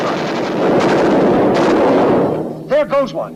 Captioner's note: guns firing